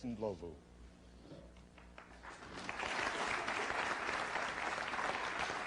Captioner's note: applause